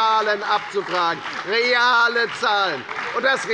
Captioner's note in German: Beifall bei der FDP und der SPD